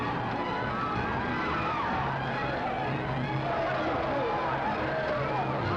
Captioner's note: crowd screaming; suspenseful music